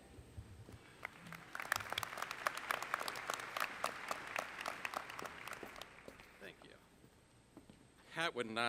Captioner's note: applause